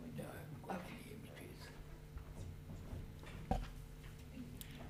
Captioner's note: faintly speaking